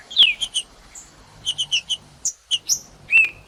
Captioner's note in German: trinca ferro cantando